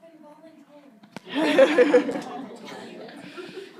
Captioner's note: group laughs